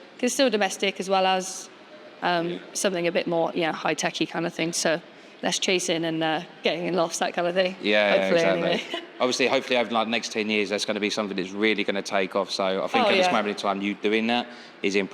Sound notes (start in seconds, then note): 8.4 laughs